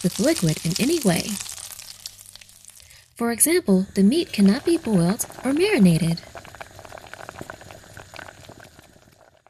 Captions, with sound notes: with liquid in any way. For example, the meat cannot be boiled or marinated. (water bubbling)